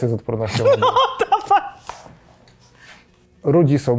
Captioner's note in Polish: śmiech